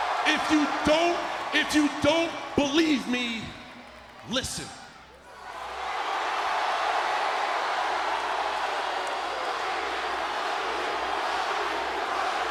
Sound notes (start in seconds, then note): 0.0 crowd cheering; 4.6 crowd cheering; 8.4 crowd chanting